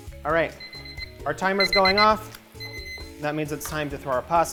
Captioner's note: beeping